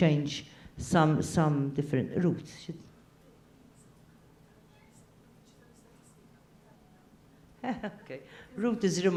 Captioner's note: laugh